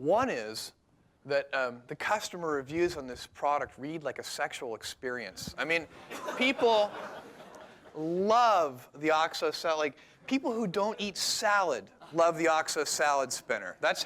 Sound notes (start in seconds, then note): 5.9 laughter